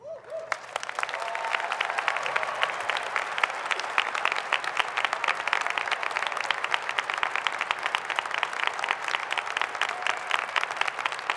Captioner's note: applause